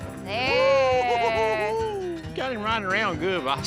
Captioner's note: giggling